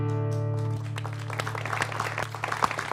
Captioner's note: applause